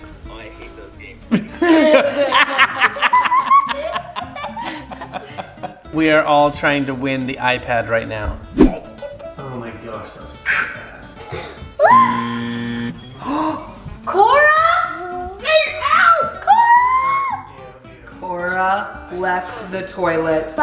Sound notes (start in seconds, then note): 1.4 everyone laughing; 11.8 yells